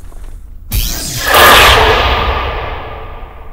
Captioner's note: TV turns on